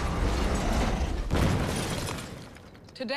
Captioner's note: boom